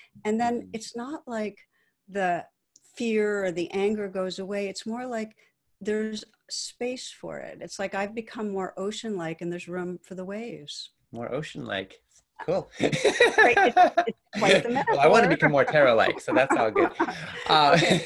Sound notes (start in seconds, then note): 12.7 laughs